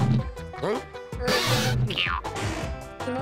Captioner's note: pipe creaks